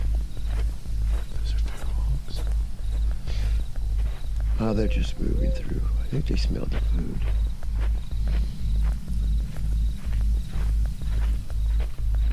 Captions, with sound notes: (branches rustling) Listen to the hooves. - Oh, they're just moving through. I think they smelled the food. (branches rustling)